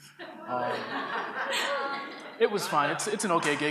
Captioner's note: audience laughs